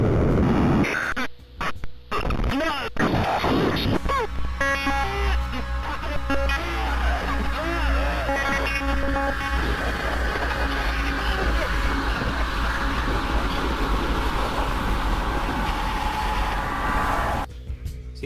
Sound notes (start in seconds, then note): 2.1 glitching noise and screams; 2.6 glitching noise